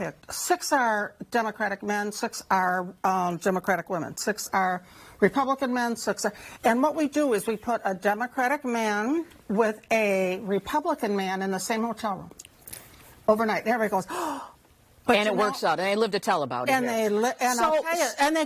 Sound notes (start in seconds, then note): 14.5 shocked sound